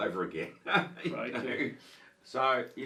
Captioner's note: laughs